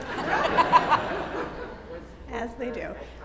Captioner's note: audience laughs